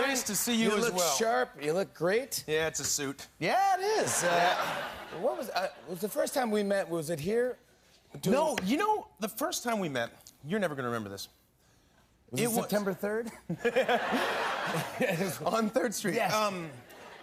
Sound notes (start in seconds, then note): 4.0 laughter; 13.2 laughter